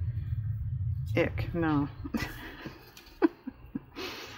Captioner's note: laughs